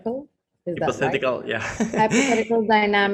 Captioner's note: laughs